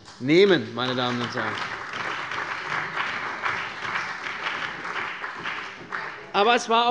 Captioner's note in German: Beifall bei der CDU